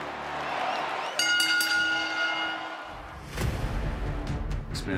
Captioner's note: bell rings; dramatic music